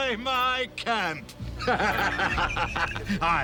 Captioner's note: laughing